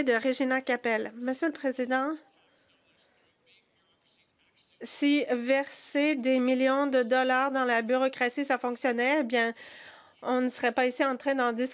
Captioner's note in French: voix de l'interprète